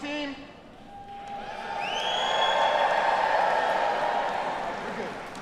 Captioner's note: students cheering